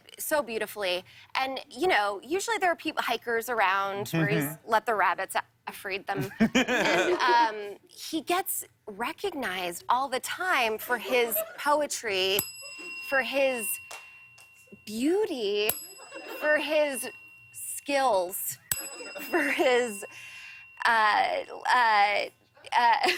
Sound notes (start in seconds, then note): 6.2 laughter; 12.3 ding; 15.5 ding; 18.3 ding